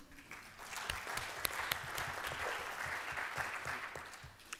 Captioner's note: applause